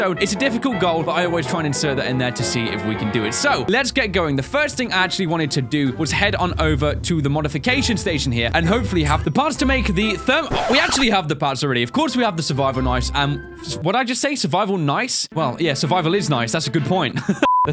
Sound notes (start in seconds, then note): 9.9 record scratch; 16.7 laughs; 17.4 intermission beep